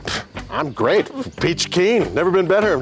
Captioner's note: Shawn scoffs